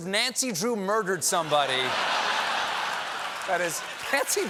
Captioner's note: laughter; applause